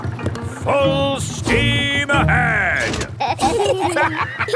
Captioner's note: lever clangs; kids and captain dog laughing